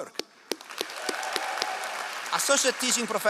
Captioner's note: all applauding